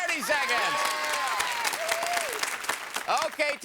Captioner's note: audience applause